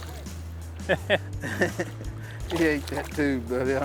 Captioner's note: laughter